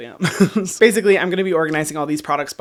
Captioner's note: laughs